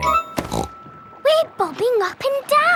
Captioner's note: snorts